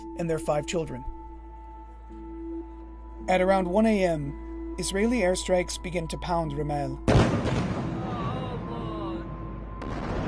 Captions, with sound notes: and their five children. At around 1 a.m., Israeli airstrikes begin to pound Rimal. [explosions]